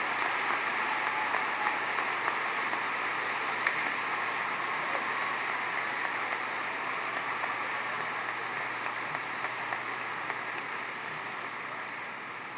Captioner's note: applause